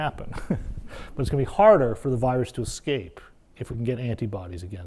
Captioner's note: laugh